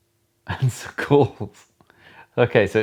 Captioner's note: laughing